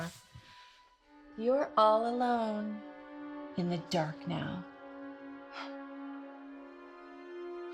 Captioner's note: scoffs